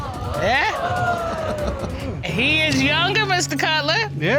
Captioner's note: audience exclaims; laughing